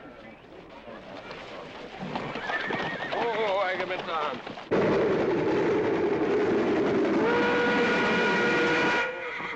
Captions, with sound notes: (Horse neighing) Whoah, Agamemnon. (Whistle blows)